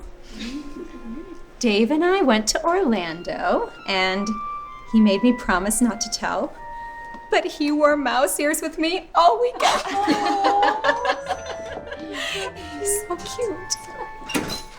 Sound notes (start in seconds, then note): 9.5 girls giggling